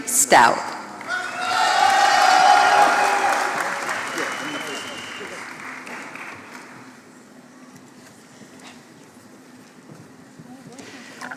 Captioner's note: applause